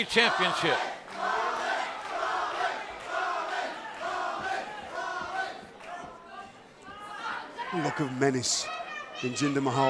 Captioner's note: crowd cheering